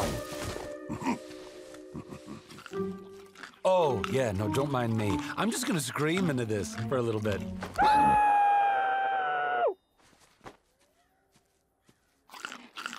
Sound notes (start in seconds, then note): 1.9 chuckles; 7.8 muffled screaming